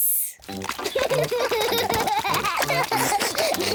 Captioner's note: both giggle